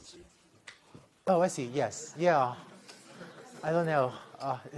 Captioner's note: laughter